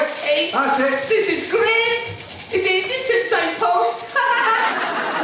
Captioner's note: audience laughs